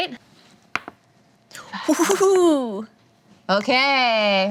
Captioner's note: dices rolling